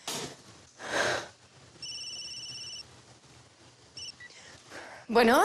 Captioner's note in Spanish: Suena el celular